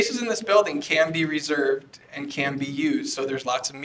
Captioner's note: off microphone